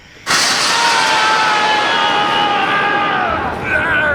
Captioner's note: Goochers screaming